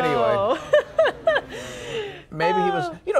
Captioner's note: laughter